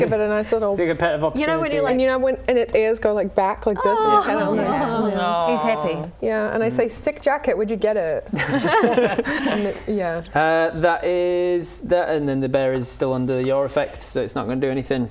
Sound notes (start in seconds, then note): 8.4 laughing